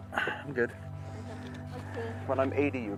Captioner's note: laughs